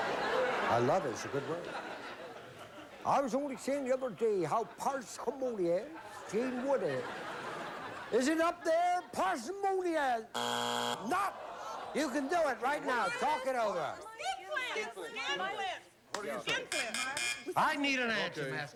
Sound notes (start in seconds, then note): 7.4 normal voice; 10.3 buzzer